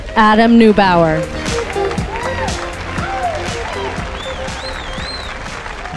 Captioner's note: cheers and applause